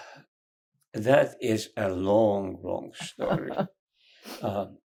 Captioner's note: laughing